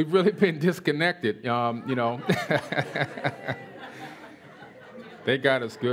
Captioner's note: laughter